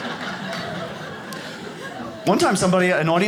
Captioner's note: audience laughs